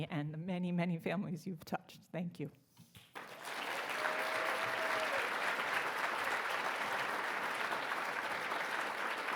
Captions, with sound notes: and the many, many families you've touched, thank you. (audience clapping)